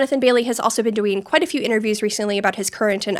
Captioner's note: none